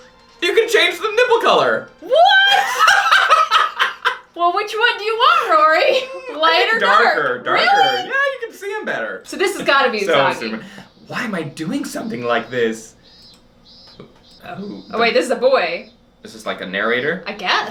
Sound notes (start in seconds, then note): 2.1 maniacal laughter